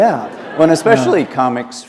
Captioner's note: laughter